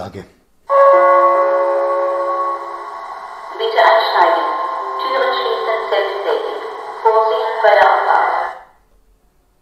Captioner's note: gong